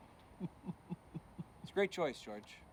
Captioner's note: george chuckles